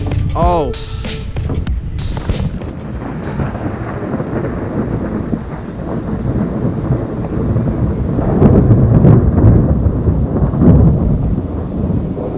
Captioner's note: thunderstorm sounds